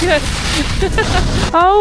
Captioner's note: laughs